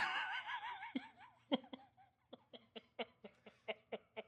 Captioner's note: laughing